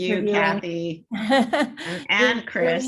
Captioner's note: chuckles